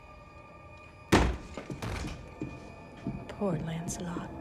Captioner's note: door thuds